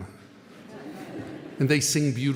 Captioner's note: audience laughing